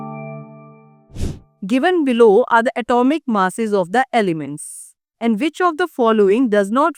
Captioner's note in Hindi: नाक से की जाने वाली आवाज़